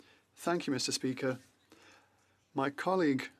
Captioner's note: speaking French